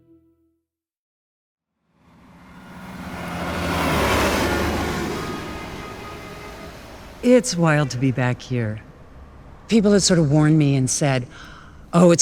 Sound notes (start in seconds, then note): 3.0 bus engine rumbling; 4.9 car horns honking